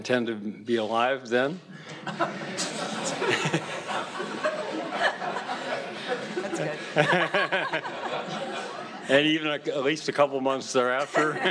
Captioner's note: laughter